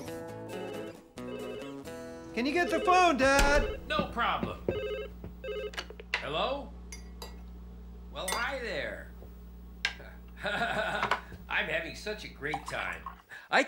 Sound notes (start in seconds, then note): 0.6 phone Ringing